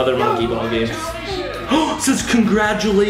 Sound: gasps

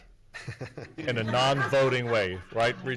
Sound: chuckles and laughing

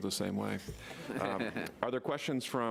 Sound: laughing

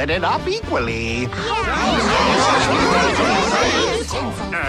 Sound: group chatter

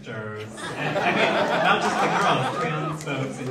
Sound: audience laughs

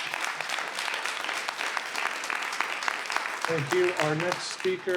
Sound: audience applauds

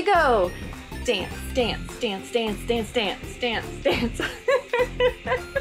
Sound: laughter

